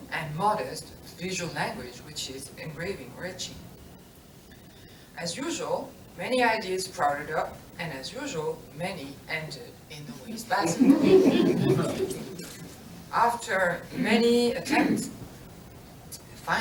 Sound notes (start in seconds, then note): 10.6 laughter